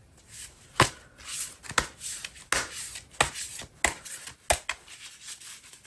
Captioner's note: drawing cards